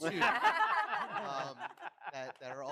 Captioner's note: all laugh